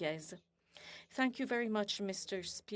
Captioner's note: speaking French